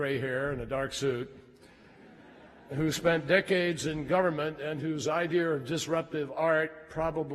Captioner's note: laughter